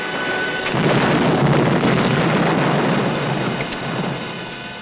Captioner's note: explosion blasting